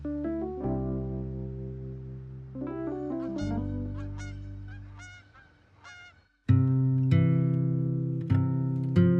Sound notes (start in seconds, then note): 3.1 geese honking